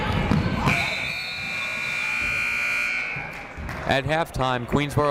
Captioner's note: buzzer blares